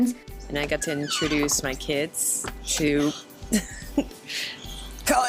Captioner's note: laughs